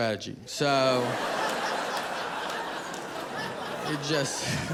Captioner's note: audience laughing